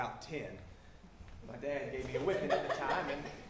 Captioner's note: audience chuckles